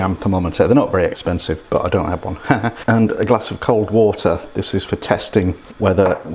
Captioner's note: laughs